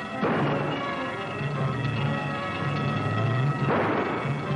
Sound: guns fires; gun fires

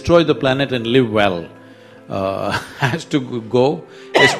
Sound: laughs

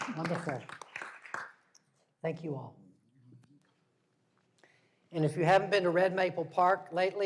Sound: applause

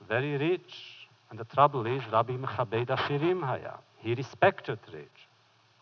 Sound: foreign language

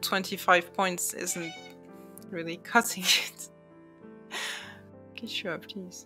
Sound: meowing

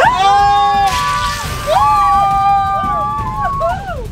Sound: crowd screams

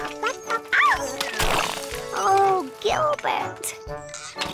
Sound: splash

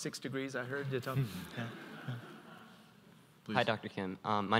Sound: audience laughs

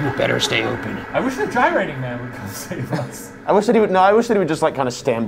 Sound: laughs

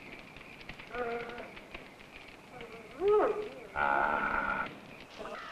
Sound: dog barking

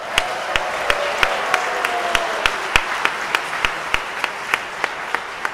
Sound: audience applauding

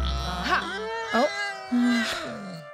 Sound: cries

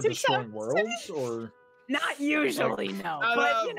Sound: players chattering

